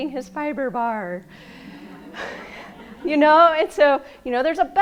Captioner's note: laughing